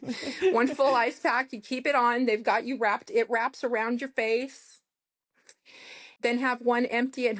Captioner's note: snorts and laughter; snorts